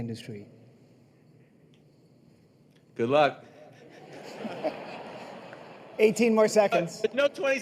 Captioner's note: laughter